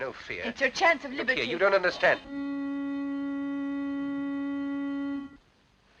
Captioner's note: honking